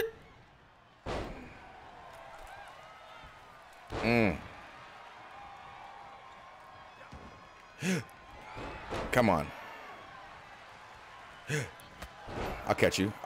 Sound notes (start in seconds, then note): 0.9 applause